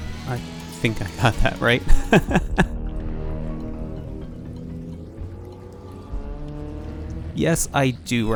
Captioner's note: laughs